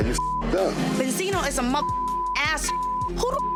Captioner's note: beep; beep